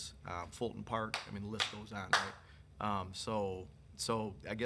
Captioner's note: attendee clapping